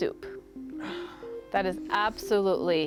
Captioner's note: sighs